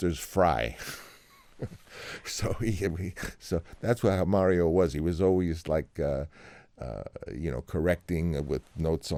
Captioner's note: laughter